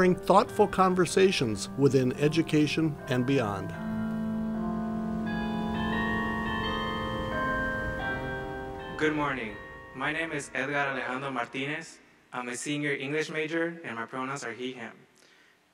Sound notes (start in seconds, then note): 5.9 bells ringing